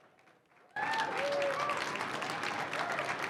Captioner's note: applause